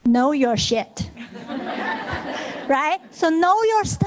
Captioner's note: audience laughing